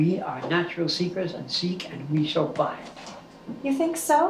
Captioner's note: none